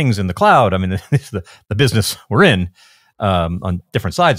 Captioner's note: laughs